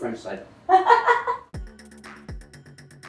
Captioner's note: laughs; upbeat pop music